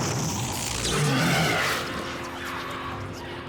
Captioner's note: loud roars